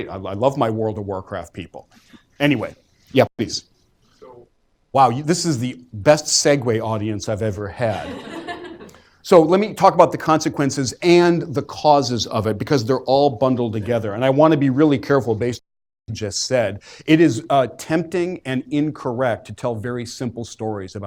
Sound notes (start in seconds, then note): 7.8 laughter